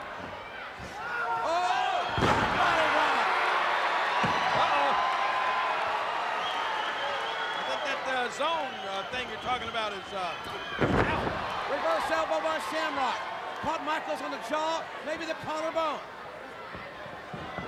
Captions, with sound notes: Oh, Shamrock. Uh oh. (audience whistling) I think that zone thing you're talking about is now. Reverse elbow by Shamrock caught Michaels on the jaw, maybe the collarbone,